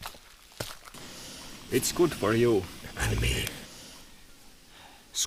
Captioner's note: in Finglish accent